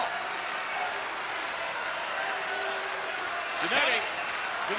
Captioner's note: crowd cheering